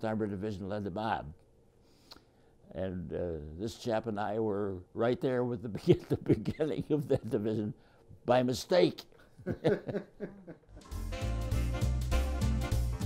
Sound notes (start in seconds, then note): 9.4 laughs